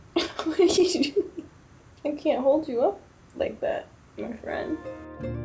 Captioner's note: laughter